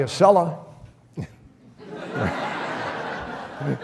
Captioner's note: audience laughs